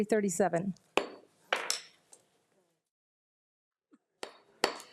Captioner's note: gavel smacks